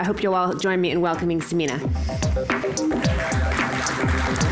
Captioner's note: applause